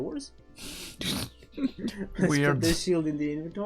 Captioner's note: laughs